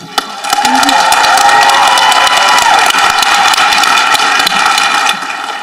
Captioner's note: people applauding and cheering